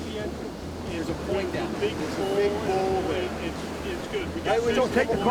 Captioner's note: people talking about what to do